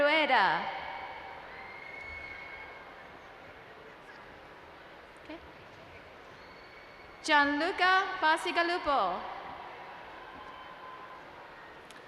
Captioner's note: cheering in the background for graduates